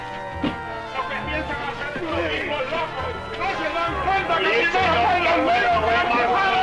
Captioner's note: men speaking in Spanish